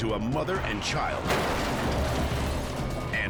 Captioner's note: cars crash